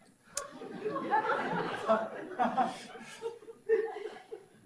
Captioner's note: audience laughs